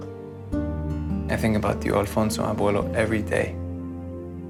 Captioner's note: speaking Spanish